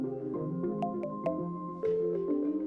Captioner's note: message dings; mellow music